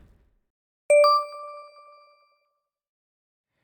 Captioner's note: beeping